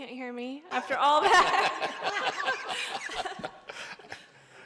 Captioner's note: laughter